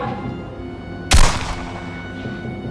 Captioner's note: gun bangs; suspenseful music